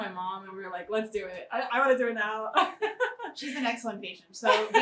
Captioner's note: laughs